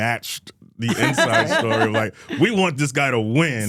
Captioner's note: Stephanie laughs